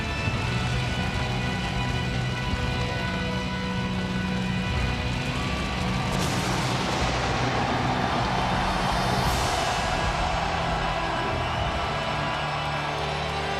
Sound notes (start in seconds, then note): 0.4 ominous music continues; 6.2 pyro bangs; 7.5 audience cheers